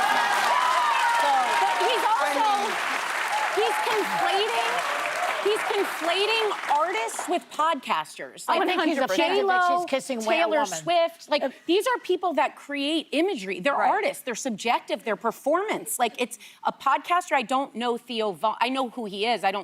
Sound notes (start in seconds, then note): 4.1 applause